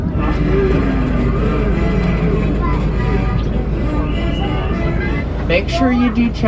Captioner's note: crowd chattering; cartoon music